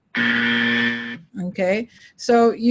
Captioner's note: buzzer